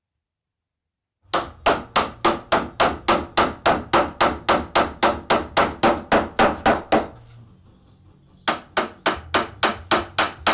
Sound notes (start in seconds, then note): 1.2 mallet tapping